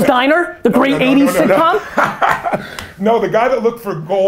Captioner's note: Tony laughs